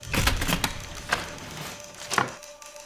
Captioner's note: typing